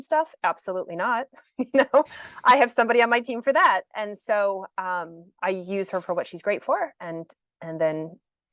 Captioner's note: chuckles